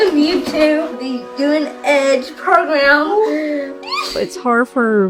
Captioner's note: squeals